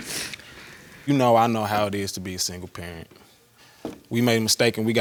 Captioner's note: sniffling